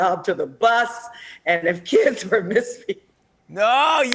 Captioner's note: laughs